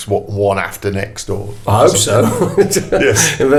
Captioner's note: laughs